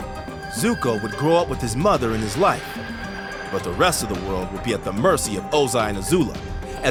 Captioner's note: none